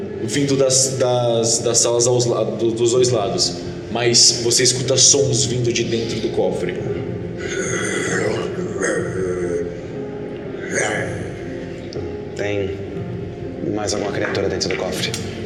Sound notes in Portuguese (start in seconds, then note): 7.4 grunhidos; 10.4 rosnado